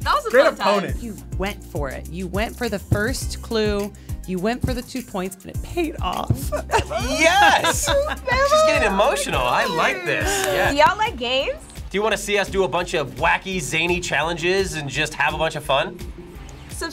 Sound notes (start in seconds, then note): 6.6 fake crying